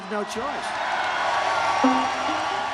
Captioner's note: cheering